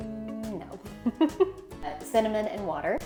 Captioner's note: laughs